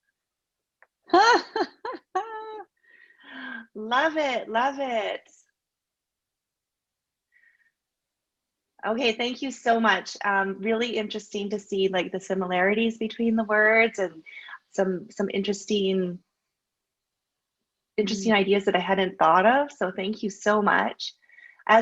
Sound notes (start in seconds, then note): 1.1 laughs